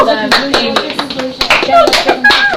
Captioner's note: applause and cheering